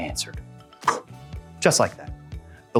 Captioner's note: poof